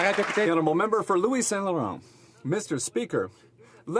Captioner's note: some Applause